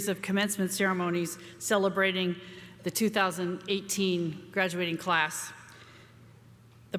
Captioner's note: none